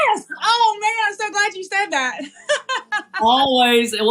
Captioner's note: laugh